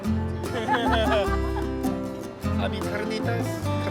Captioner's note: both laugh